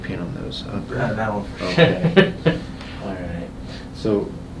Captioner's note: patient murmurs; patient laughs